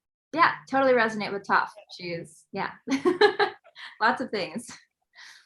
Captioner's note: laughs